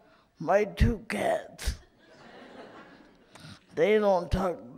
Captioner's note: light laughter in audience